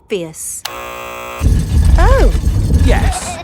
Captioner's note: buzzer sounds